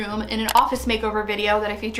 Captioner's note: mouse clicks